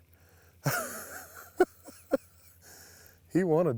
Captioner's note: chuckles